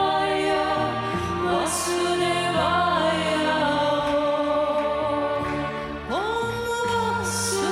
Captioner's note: chanting